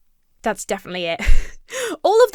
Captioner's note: chuckles